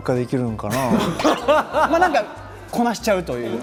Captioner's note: hahahaha